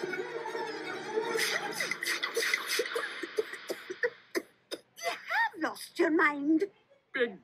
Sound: coughs

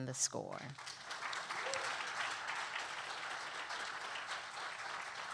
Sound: audience applauding

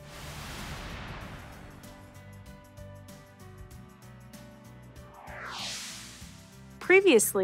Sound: whoosh sfx

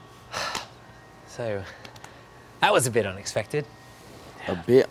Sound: exhales

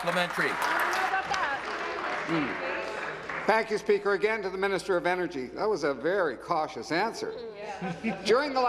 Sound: applause

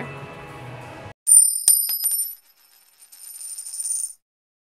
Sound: coin clinking

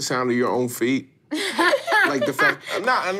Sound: laughing

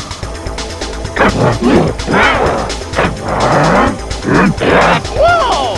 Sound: gasps; grunt gibberish

